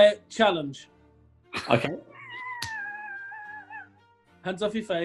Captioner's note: sniggering